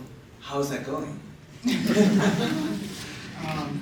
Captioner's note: laughter